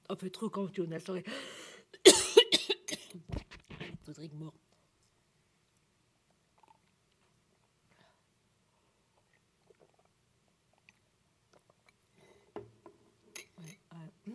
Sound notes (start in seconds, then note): 2.0 coughs; 3.7 french